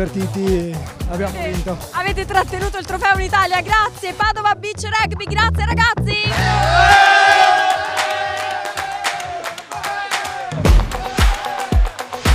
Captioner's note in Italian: Applauso